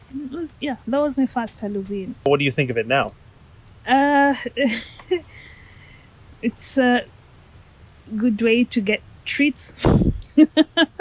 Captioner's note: laughing